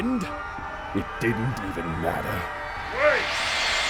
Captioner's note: seething